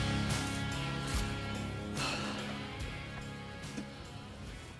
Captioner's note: grass crunching; mouth spits